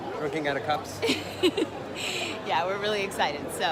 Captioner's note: laughing